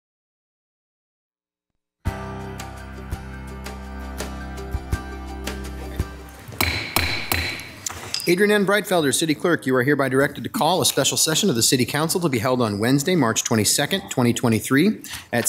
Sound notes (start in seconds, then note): 2.1 bright music; 6.6 gavel banging